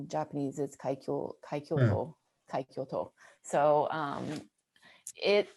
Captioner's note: speaking in Japanese